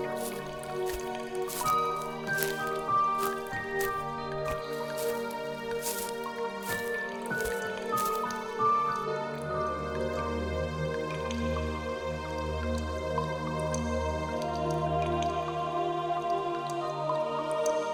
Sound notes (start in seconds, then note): 9.5 mysterious music continues; 14.5 water dripping